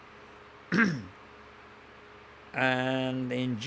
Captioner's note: clears throat